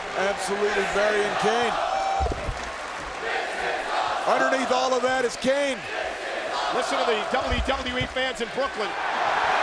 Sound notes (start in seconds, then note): 2.6 crowd chanting; 9.4 crowd cheering